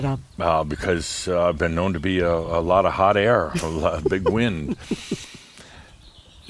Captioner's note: giggles